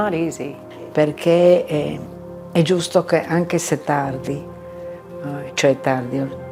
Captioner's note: speaking in foreign language